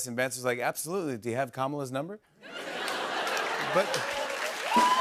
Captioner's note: laughter; cheers and applause